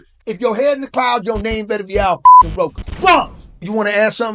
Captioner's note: beep